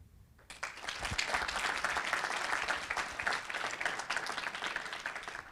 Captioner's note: audience applauding